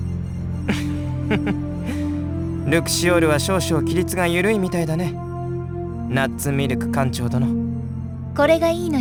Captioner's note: chuckle